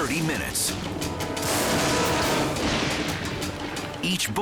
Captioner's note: thunder booms